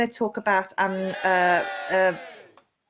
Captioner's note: cheering